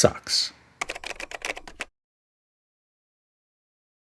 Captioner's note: typing